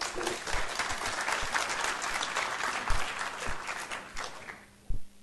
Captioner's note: applause